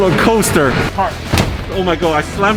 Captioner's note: bag slams